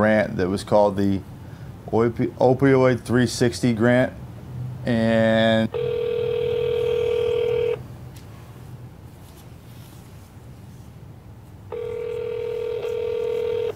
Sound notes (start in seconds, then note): 5.7 phone ringing; 11.7 phone ringing